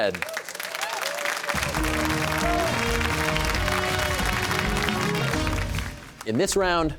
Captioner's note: cheers and applause